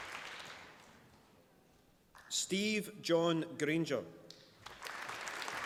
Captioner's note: applause